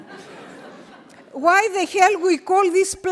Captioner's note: audience laughing